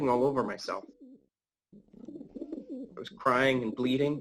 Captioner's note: the sounds of pigeons